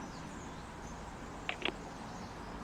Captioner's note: intercom clicks off